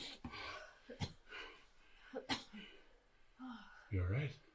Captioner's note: Alison coughing